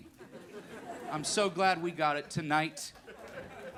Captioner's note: crowd laughing